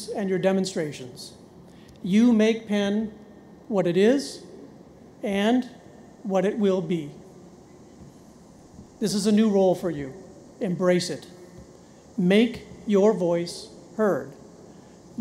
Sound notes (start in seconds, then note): none